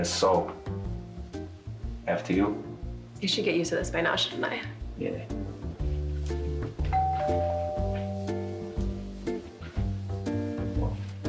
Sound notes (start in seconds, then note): 6.9 doorbell rings; 8.7 upbeat music